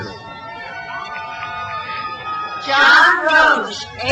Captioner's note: crowd cheers